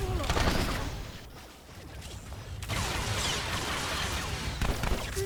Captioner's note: gun firing